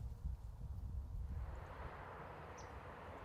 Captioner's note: sounds of wind and birds